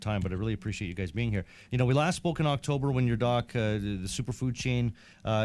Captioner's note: none